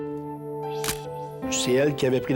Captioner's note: camera shutter click